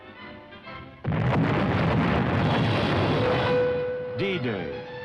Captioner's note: artillery booming